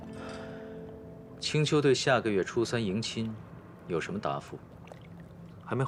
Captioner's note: sigh